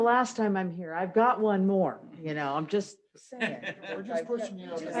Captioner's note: laughter and chatter